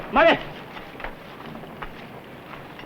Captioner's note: speaking japanese